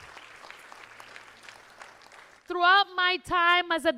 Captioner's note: applause